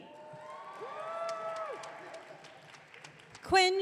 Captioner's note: audience cheering